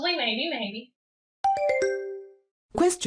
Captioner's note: question ding